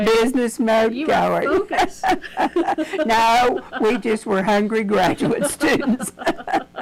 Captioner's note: laughs